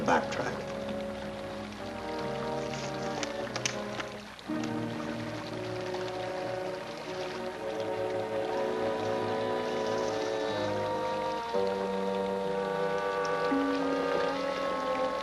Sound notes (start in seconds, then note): 2.0 ominous music; 2.0 sewage flowing